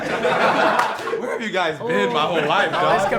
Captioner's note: laughing